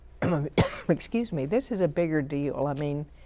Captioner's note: clears throat